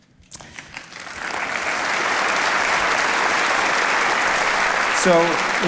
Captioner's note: audience applauding